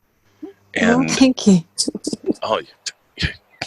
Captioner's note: chuckles